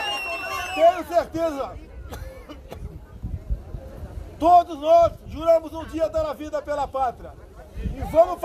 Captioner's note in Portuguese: tosse